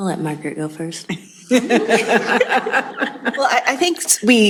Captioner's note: laughter